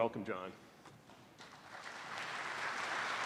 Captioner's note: applause